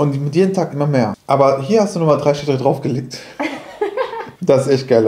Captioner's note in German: lacht